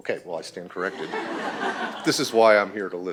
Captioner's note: laughter